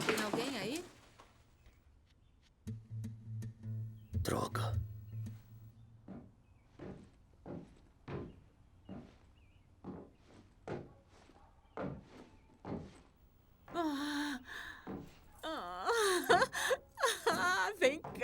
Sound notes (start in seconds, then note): 13.8 gasping